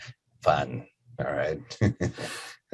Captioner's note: laughs